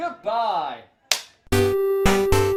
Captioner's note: clap